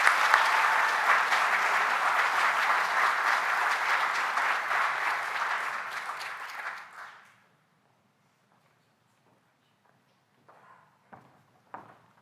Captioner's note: applause